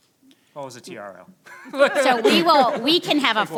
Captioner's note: laughs